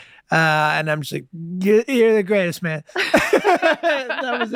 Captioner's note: laughing